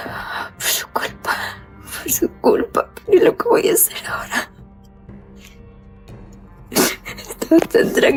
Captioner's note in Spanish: risas